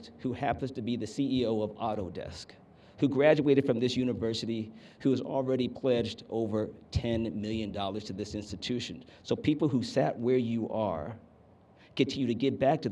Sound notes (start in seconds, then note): none